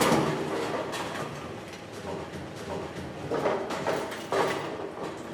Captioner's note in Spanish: Ruidos diversos en la bolera